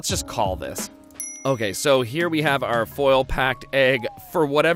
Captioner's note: dings